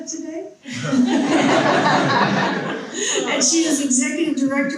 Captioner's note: people laughing